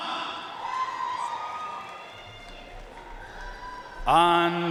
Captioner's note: audience cheering and applauding